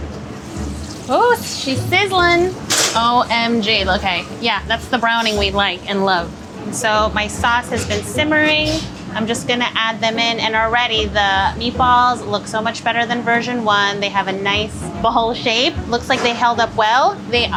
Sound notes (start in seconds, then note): 0.1 meatballs sizzling